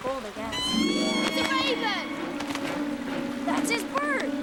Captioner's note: caws